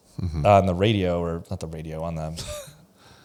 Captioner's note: laughs